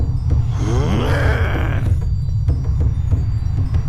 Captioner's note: Og growling